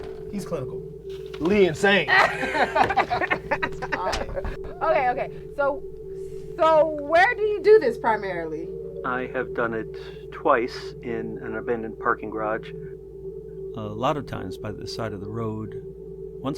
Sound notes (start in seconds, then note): 1.8 Cedric and Terra laugh; 2.6 glass knocks